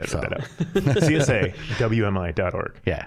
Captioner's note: laughing